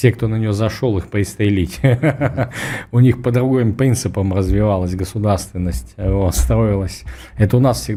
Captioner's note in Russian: смех